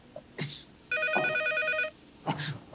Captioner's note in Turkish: Telefon çalıyor